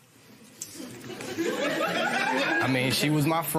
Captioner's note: laughter